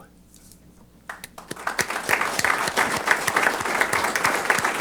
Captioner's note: applause